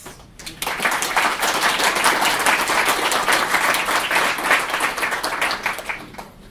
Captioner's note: applause